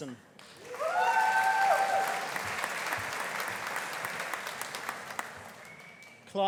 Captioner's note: audience applauding; audience cheering